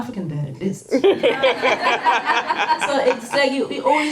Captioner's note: audience laughter